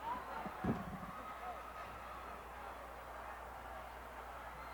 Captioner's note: crowd cheering